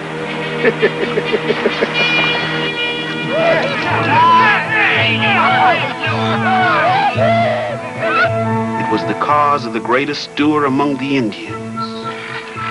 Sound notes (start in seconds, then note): 0.5 York laughing; 3.0 men whooping and laughing